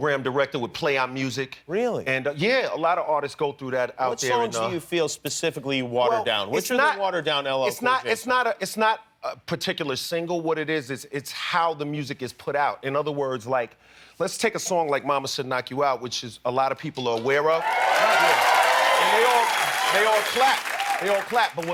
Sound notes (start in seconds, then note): 17.5 applause